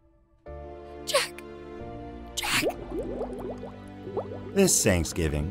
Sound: bubbling sound

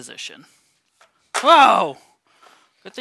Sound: board clatters

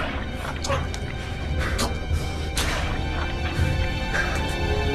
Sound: choking

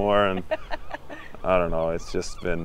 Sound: laughing

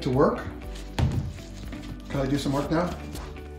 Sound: loud thump

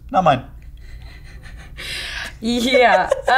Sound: laughing

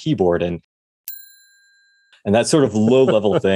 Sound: bell sound

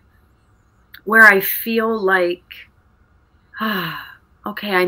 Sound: sighs

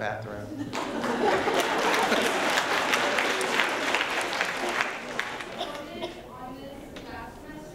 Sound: applause

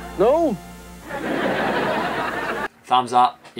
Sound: audience laughing

